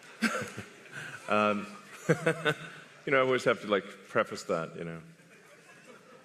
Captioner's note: laughter